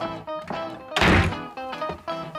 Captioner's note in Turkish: Kapı kapanma sesi